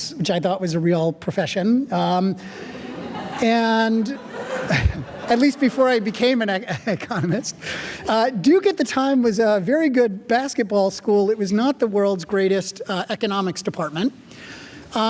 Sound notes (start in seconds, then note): 2.4 audience laughing; 7.7 laughing